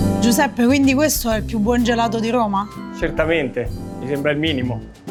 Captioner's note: bright music continues; both speaking in foreign language